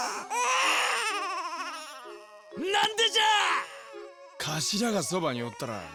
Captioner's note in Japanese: 泣き声; 叫び声